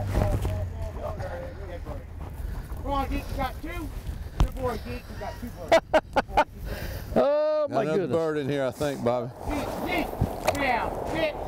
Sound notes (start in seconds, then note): 5.2 laughs